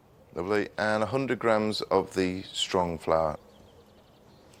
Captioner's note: none